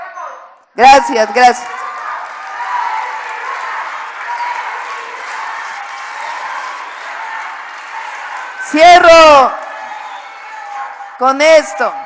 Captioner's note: applause